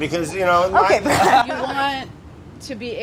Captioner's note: laughs